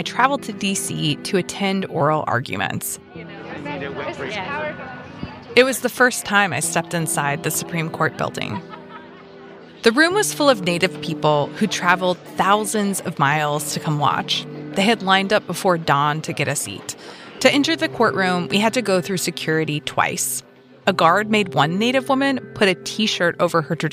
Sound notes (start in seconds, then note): 9.7 inside court ambi